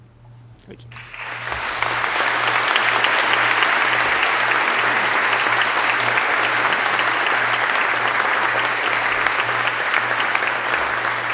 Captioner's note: applause